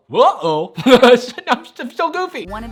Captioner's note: laughs